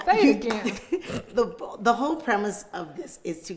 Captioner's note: chuckles